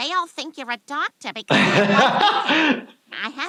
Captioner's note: laughs